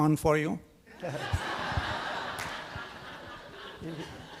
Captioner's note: audience laughing